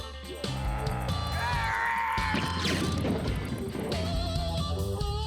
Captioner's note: growling